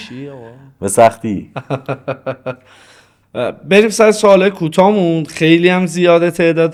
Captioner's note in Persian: خنده